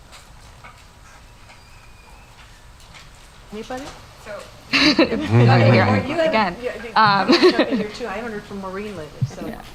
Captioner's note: laugh